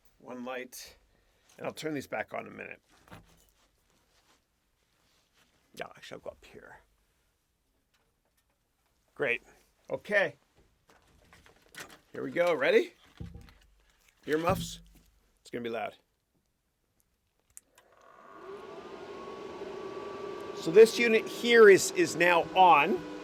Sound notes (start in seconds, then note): 18.1 ASIC fans whirring